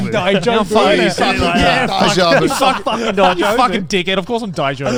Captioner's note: indistinct chatters